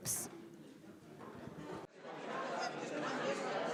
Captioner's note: chattering discussion